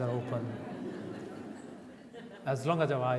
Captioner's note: audience laughs